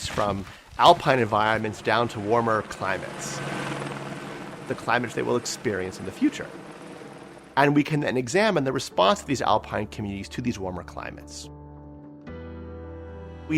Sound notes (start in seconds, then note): 3.3 helicopter humming; 11.8 light music continues